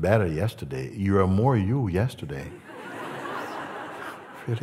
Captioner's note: Lachen